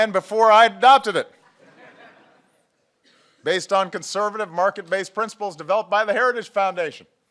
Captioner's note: laughter